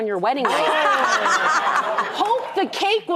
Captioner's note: laughter